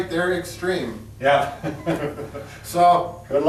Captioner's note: laughs